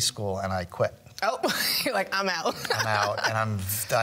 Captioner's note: joyful laughing